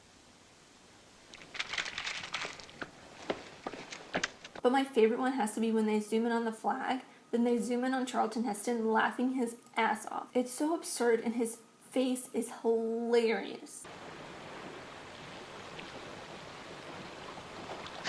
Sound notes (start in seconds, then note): 1.3 paper cumpling; 1.3 footsteps; 13.9 water running